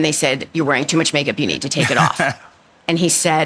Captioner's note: laughs